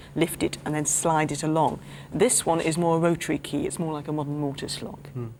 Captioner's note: none